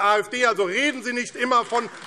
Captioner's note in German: Beifall AfD